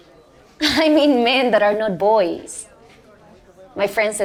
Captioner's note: chuckles